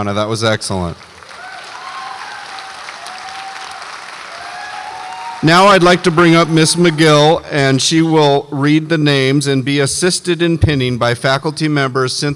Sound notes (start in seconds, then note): 1.0 audience applauds and cheers